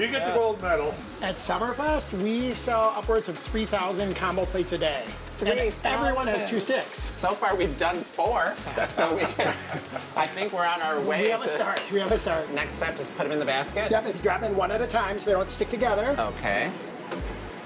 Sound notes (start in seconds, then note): 8.6 laughter